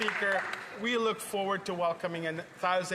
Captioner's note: some Applause